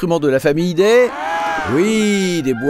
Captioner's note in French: cris de pingouins